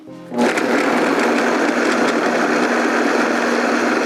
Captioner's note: blender whirs